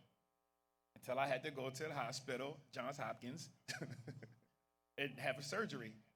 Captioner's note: laughs